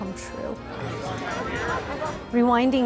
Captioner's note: crowd Walla